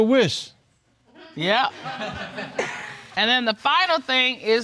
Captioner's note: audience chuckles